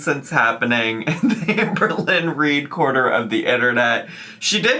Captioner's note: laughing